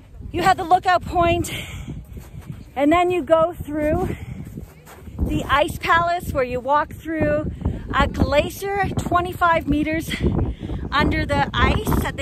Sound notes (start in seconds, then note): none